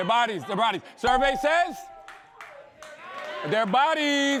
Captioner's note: bell dings